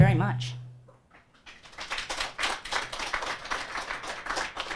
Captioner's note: audience applauds